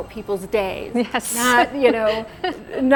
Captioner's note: laughs